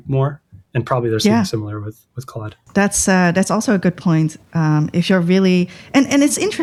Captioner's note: uh